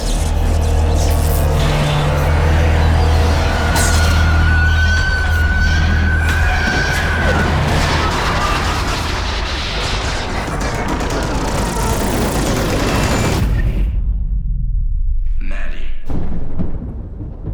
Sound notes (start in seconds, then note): 4.2 demon screeching; 16.0 thunder rumbles